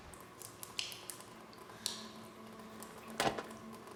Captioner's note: water dripping